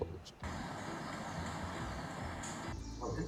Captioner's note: car engine revving